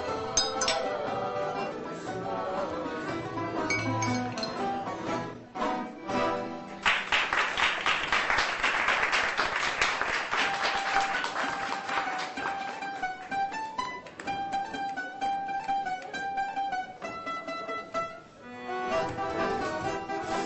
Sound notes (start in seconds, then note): 6.8 patrons applaud